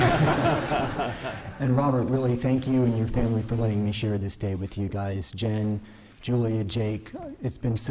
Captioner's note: laughter; laughter